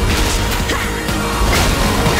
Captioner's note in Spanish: gruñe